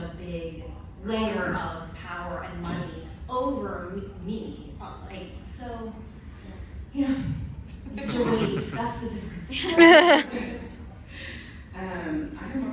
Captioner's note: laughter